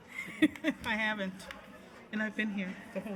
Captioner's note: laughs